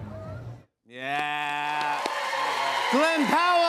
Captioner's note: cheers and applause